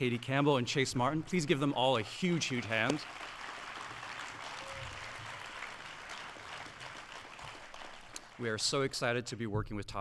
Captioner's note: audience applauding